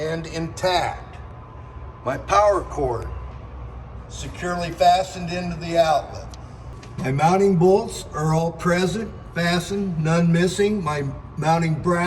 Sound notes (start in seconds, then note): none